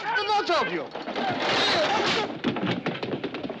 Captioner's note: Gritos